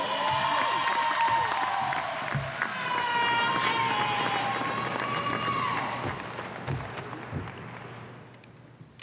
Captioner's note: applause and cheers